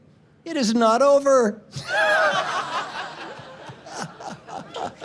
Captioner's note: laughing